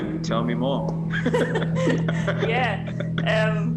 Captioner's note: laughing